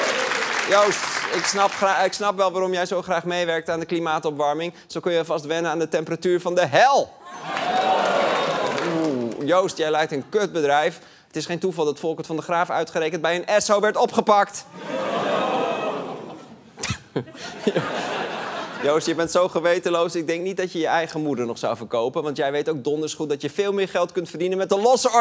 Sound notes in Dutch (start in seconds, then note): 7.2 gejuich